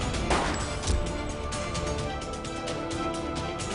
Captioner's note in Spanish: Disparos